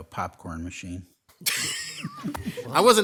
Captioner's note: laughing